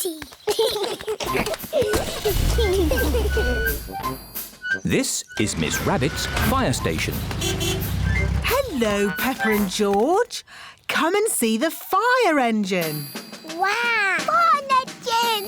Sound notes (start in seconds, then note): 0.0 both giggling; 7.3 horn honks